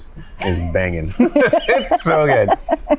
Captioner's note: both laugh